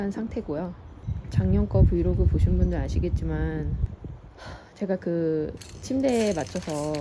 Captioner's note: sigh